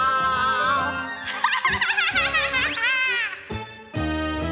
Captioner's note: laughs